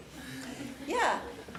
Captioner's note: laughs